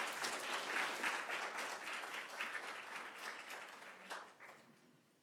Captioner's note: applause